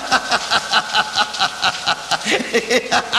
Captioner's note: laughs